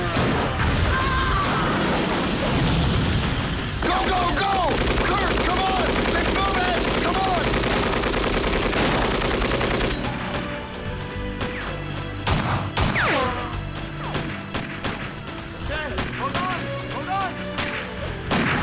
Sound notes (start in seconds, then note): 0.0 explosion rumbles; 7.8 guns firing